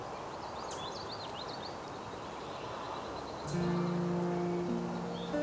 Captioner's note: birds chirping